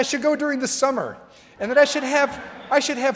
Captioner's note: crowd laughing